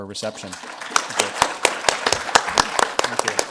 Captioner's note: clapping